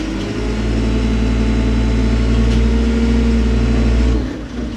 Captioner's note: machinery rumbling